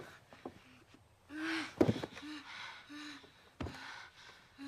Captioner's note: both Breathing Heavily